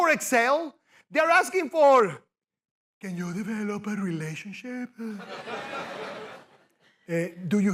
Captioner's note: mockingly